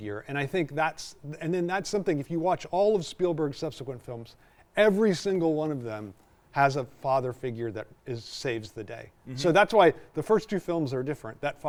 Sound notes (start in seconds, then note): none